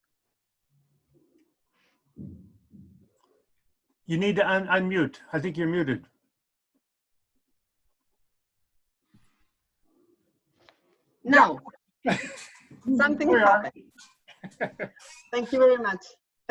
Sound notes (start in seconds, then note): 9.4 laughs